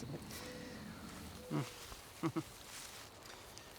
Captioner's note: chuckling